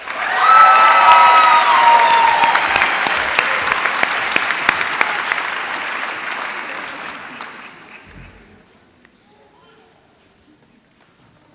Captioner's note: applause